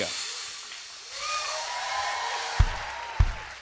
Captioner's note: cheers and applause